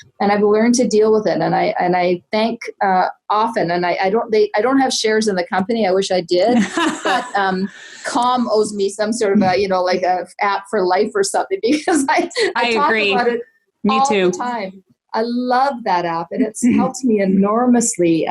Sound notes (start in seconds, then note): 6.5 laughing; 12.3 laughs